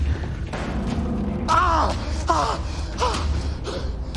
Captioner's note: groaning